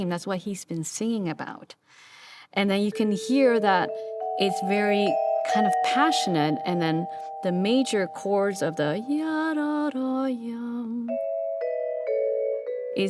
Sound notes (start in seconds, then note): 9.5 imitating melody